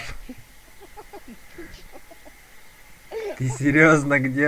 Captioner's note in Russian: истерический гогот